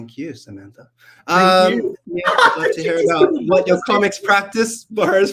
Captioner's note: laughs and make an indiscriminate comment